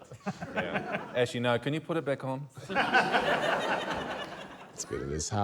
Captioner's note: laughter